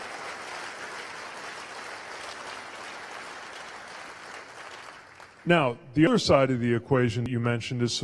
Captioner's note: cheers/applause